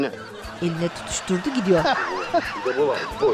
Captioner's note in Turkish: Gülme sesi